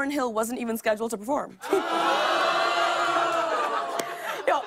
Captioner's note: audience ohs